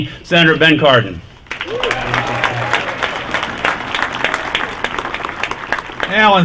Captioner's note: applause